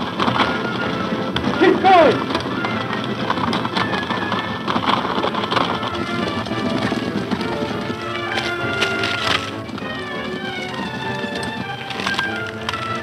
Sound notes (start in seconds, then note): 3.2 hooves clopping